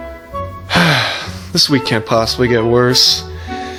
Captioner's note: sighs